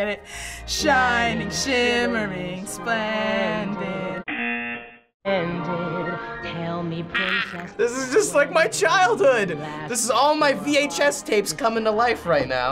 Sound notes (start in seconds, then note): 0.3 singing along; 4.3 buzzer